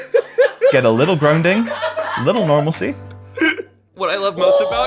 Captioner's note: laughter